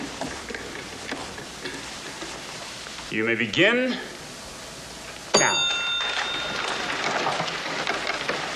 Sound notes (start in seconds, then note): 5.3 bell rings